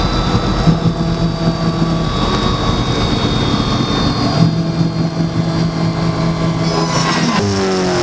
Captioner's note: turning car on and off several times